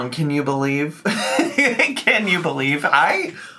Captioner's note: laughs